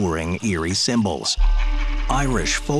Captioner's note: scary voice cackling